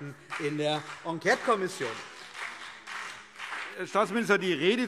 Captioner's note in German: Beifall CDU und BÜNDNIS 90/DIE GRÜNEN